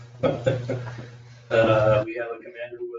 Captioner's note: laughter